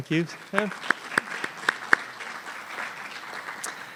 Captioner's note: applause